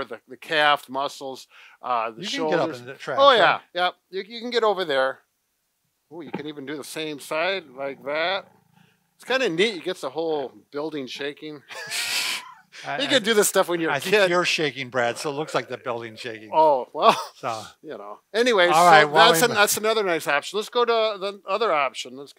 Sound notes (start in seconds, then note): 11.6 laughs